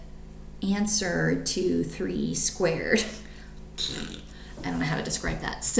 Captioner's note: blows raspberry